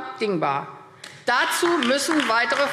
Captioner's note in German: Beifall AfD